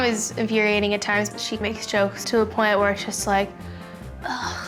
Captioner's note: groans